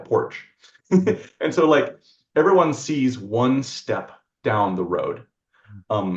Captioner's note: laughs